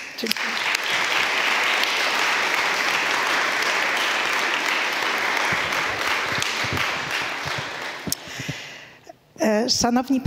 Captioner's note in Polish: oklaski